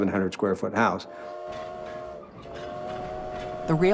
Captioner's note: train whistle